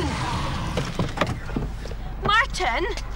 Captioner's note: car door clicking